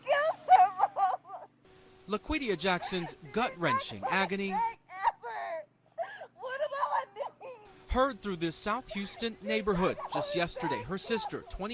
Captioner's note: crying; crying